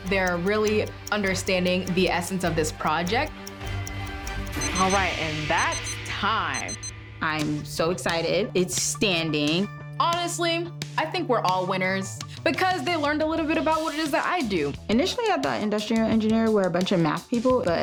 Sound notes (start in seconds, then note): 4.8 clock beeping